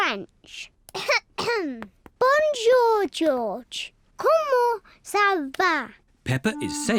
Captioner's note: coughs